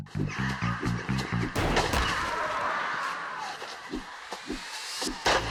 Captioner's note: body thumping